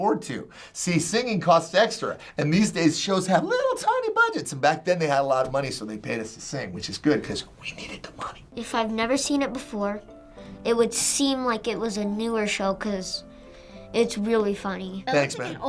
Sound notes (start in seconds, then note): 7.3 whispering